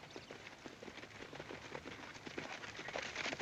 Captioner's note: horses approaching